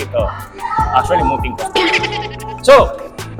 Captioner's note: chuckles